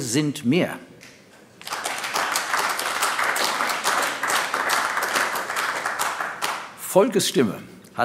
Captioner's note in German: Beifall AfD